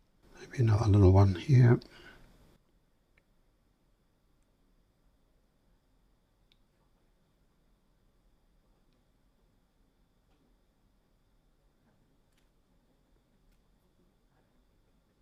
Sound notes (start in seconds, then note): 2.2 silence